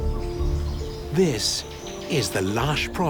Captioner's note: exotic birds calling